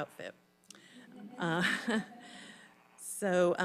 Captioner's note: audience laughing